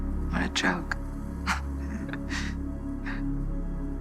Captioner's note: chuckles